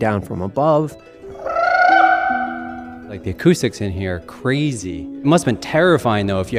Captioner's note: makes trilling noise